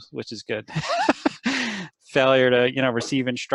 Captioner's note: laughter